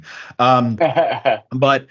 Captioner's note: laughs